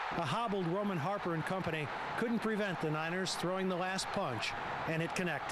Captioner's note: applause